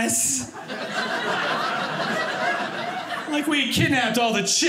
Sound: audience laughing

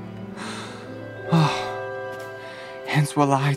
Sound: sigh

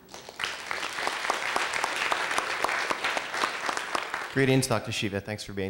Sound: applause

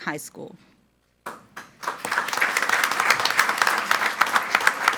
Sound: group applauding

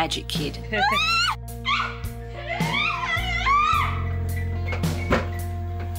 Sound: happy excited squeals

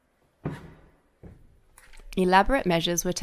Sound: footsteps

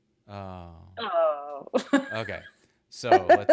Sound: laughs

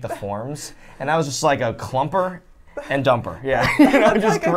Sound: laughs

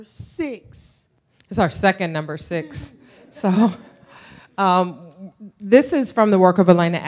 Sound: laughter

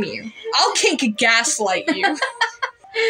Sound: laugh; laugh

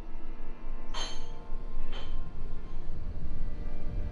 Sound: glasses clinking

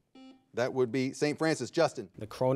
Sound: buzzer beeping

